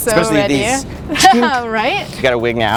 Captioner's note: laugh